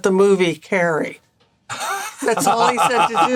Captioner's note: Gould laughing